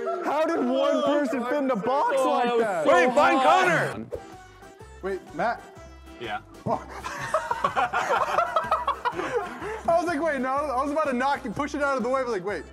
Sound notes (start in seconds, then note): 6.6 laugh